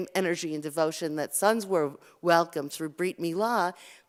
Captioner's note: Hebrew